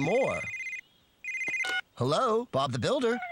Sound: phone Rings

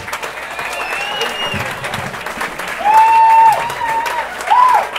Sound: applause

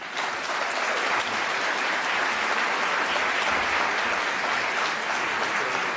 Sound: applause

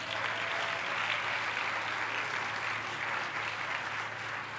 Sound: applause

